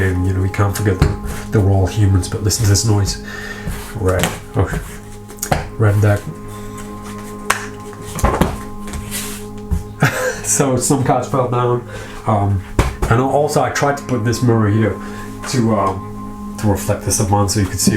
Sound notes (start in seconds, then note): 7.4 cards slap; 10.0 laughs